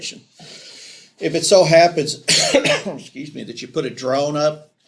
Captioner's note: coughs